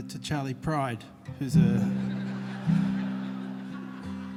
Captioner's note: laughter